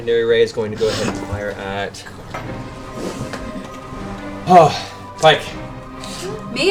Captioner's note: sighs